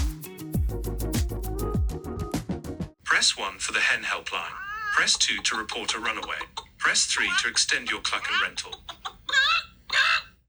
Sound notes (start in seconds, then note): 0.0 upbeat music; 9.4 chicken clucking